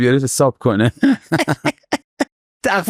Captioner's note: laughs